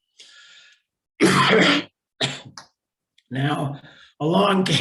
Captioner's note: coughing